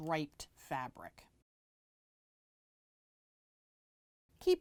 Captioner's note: no Sound Present